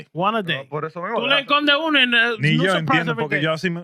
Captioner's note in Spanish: Hablando en idioma extranjero